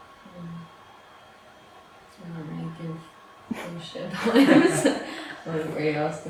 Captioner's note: cast laughs